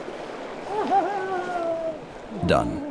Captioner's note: speaking foreign language